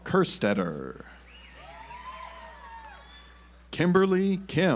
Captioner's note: audience applauds